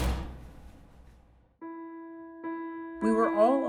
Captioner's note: door slams